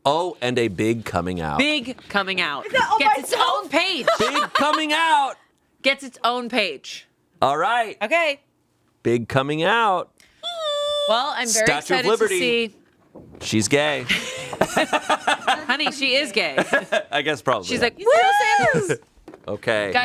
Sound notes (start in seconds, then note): 14.0 all laughing